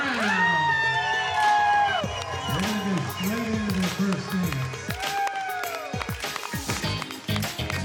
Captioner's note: cheering; upbeat guitar music